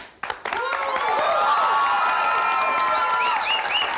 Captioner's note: cheering